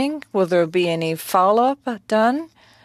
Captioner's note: speaking french